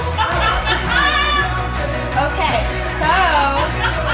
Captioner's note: laughing